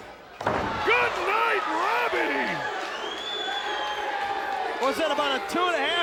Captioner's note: audience cheers